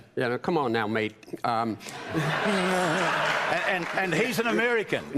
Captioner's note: laughter